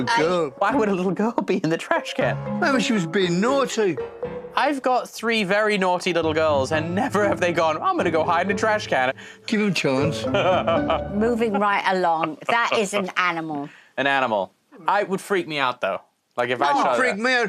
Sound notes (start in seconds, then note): 10.2 laughs